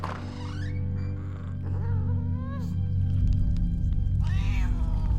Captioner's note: door creaks; critter mewling